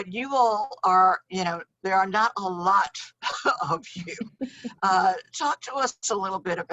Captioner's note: laughs